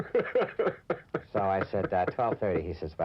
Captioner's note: reporter laughing